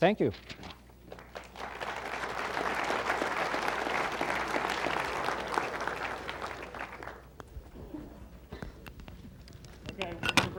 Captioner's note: applause